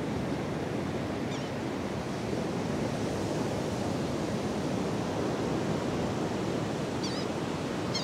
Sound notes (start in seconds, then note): 3.5 A Laughing Gull calls in the distance